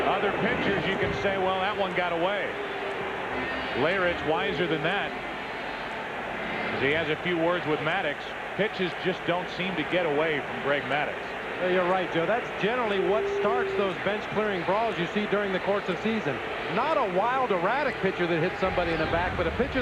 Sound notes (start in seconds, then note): 3.5 crowd booing